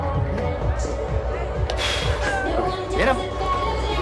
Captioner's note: exhales